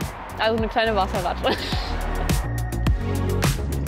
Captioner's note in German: lacht